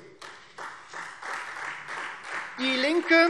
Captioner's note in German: Beifall Freie Demokraten